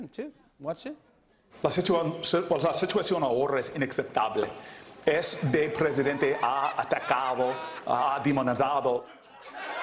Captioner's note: speaking Spanish; laughter